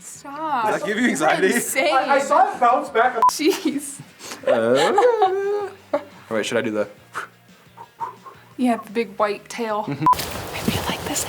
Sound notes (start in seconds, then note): 8.0 whistles